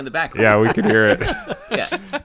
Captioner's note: chuckling